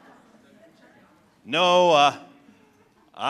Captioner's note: laughter